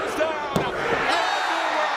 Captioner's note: crowd cheering